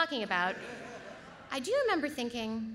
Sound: audience laughs

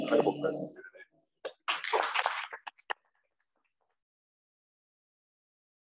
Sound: clapping

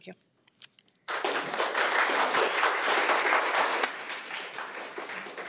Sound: audience clapping

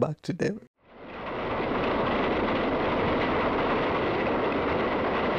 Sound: train rumbling

